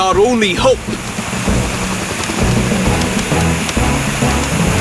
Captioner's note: water Gushing; grunting & Straining